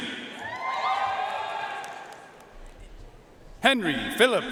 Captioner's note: audience cheering and applauding